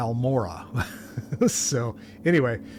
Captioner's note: laughter